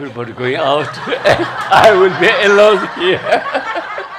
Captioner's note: laughter